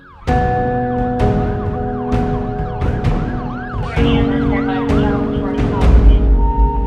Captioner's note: emergency Siren and Radio Communications